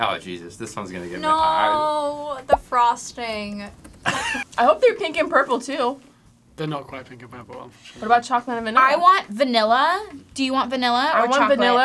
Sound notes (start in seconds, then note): 4.0 laughs